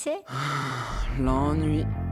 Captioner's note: sigh